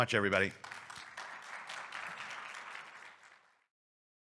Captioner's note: audience applauding